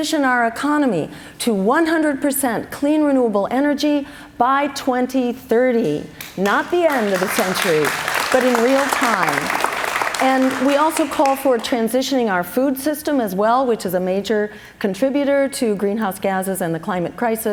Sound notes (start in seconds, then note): 9.3 cheers and applause